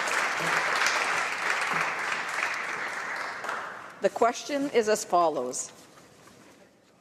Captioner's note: applause